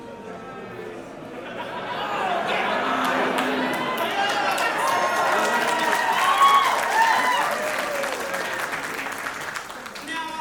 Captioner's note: audience boo and then applause